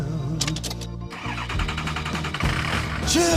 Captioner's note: truck cranks